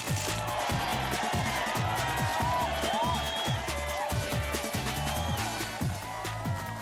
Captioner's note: cheering